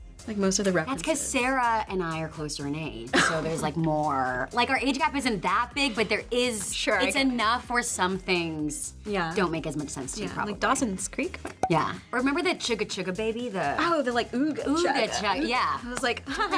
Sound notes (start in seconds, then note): 11.4 graphics pop